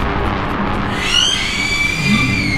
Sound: screams

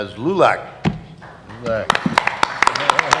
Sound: applause

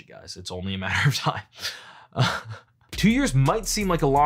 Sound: chuckles

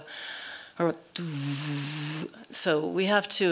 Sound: hums

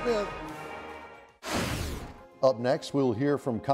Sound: whooshing

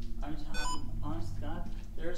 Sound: phone beeps

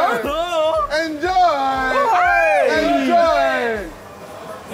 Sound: fake moan

